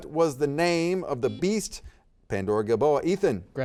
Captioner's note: buzzer beeps